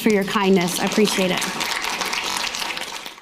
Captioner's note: audience applauding